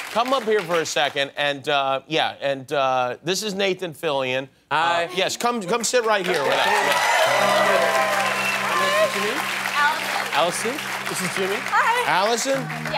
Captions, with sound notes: Come up here for a second. And, yeah, and this is Nathan Fillion. - Hi. - Hi. Yes, come sit right here with us. Yeah. [CHEERING AND APPLAUSE] Hi! - What's your name? - Allison. Allison. This is Jimmy. - Hi! - Allison. Yeah.